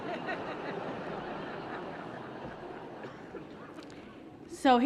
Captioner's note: laughter